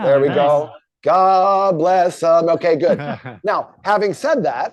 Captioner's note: chuckling